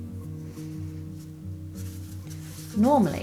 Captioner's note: rustling and scissors snipping